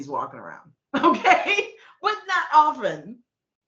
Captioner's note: laughing